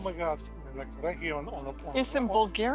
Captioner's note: speaking in foreign language